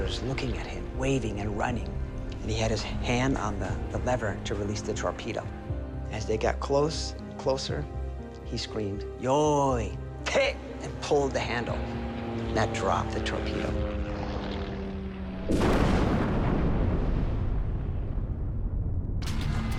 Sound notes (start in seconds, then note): 9.3 speaking Japanese; 15.4 explosion